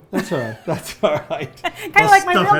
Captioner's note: they laugh